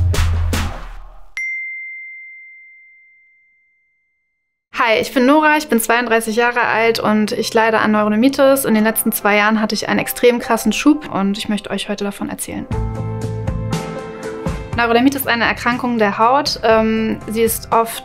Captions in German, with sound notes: (Klingeln) Hi, ich bin Nora, ich bin 32 Jahre alt und ich leide an Neurodermitis. In den letzten zwei Jahren hatt ich einen extrem krassen Schub, und ich möchte euch heute davon erzählen. (Gefühlvolle Musik) Neurodermitis ist eine Erkrankung der Haut.